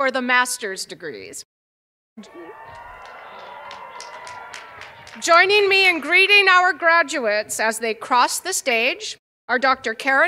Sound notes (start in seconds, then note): 4.8 cheers and applause